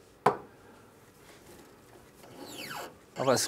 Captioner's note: squeaking